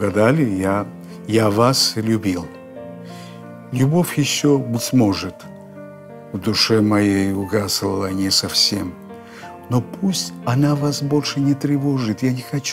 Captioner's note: reads in Russian